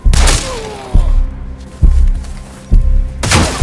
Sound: gunshots

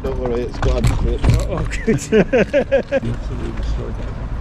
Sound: laughs

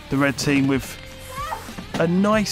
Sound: exclaims

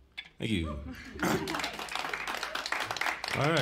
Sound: cheers and applause

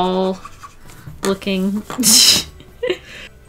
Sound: laughs

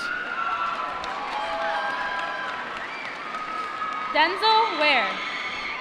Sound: applause

